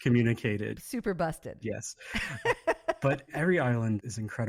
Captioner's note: laughs